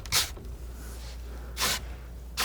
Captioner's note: scratching